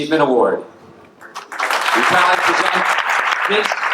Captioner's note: audience applauding